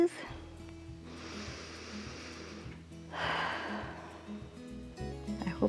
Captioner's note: inhales and exhales